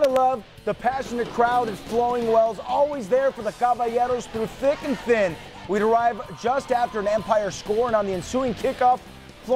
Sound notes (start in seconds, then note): 1.0 passionate crowd